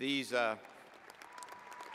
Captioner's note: cheers